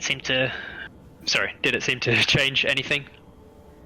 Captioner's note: He drops Krel's voice